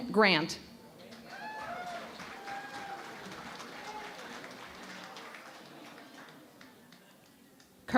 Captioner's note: cheering and Applause